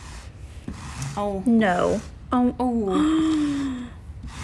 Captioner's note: gasping